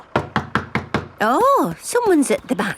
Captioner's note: knocking at door